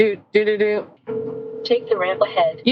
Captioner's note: phone Ringing